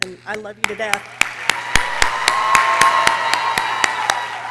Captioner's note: people cheering